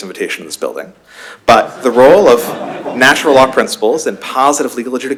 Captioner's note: laughter